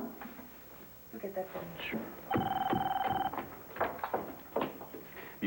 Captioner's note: telephone rings